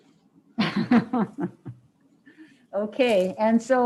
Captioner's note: laughs